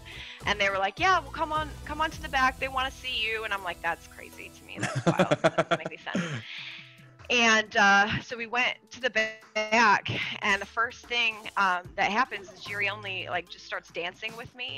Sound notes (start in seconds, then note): 4.8 laugh